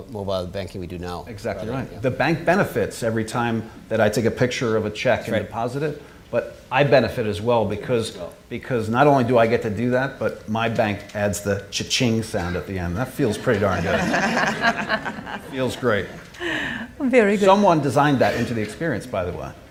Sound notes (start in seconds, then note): 13.2 all chuckling